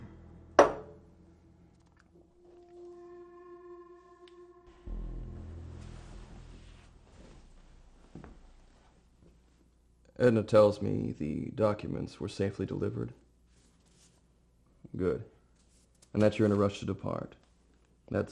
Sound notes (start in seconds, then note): 0.6 bottle clanging; 4.0 ominous music continues